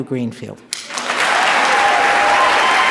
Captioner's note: applause